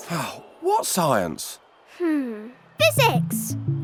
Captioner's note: dad sighs